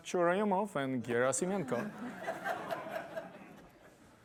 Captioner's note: laughter